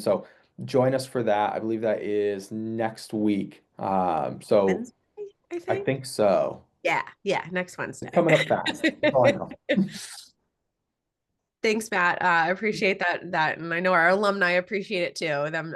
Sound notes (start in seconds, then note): 8.1 giggles